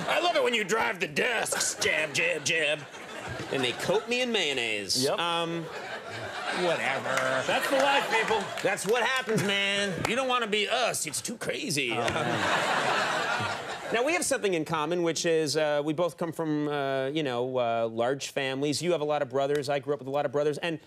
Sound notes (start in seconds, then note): 11.9 audience laughing